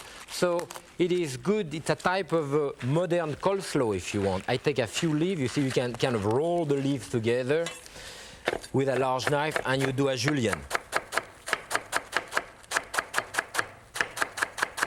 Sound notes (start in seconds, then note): 10.6 knife chopping